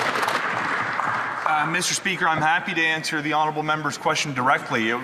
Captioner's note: some Applause